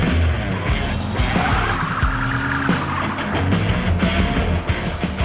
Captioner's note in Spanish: Ruido del vehículo